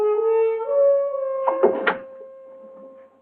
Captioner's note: door locking